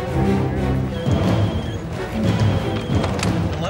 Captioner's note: phone ringing